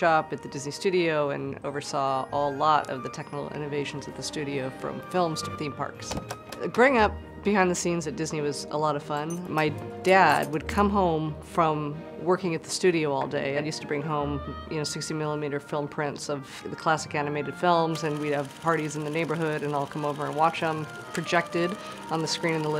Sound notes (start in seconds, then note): 6.1 door opens; 9.1 clinking; 19.3 film strip whirring